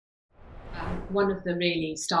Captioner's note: screen swooshing